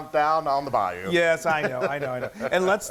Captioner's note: laugh